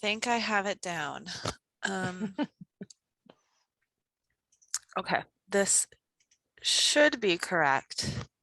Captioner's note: laugh